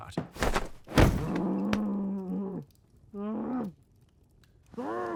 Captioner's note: Sherblock angrily grumbles into pillow